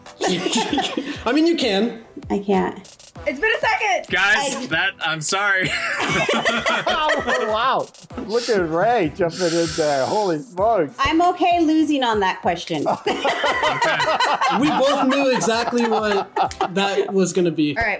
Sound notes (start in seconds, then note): 0.1 both laugh; 5.6 both laugh